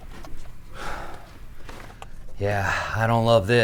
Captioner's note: Pete loudly breathing